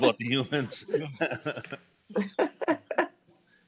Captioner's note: all laughing